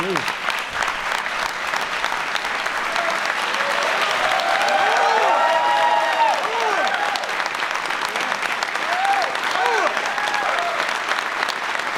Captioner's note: applause